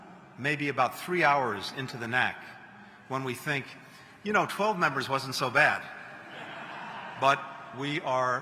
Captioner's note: laughter